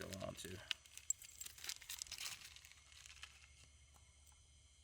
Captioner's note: rustling